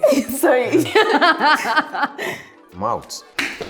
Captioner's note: laughs